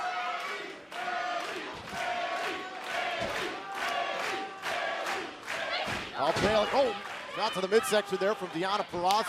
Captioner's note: fans chanting